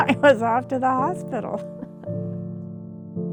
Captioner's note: laughter